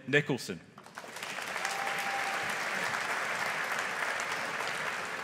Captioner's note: audience applauding